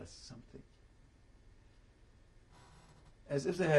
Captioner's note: pauses for 3 seconds